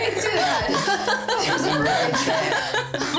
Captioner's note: laughter